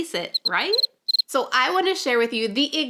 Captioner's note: crickets chirping